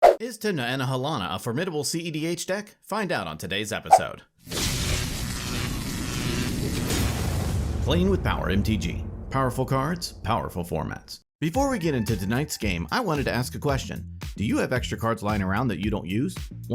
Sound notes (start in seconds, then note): 4.5 electricity buzzing